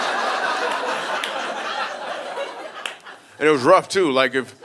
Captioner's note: audience laughing